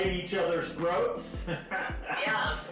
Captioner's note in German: lacht